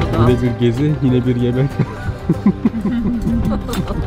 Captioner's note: giggles